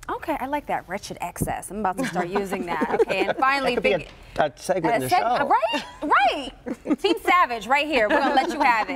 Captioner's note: laughter